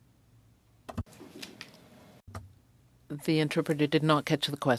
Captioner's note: speaking French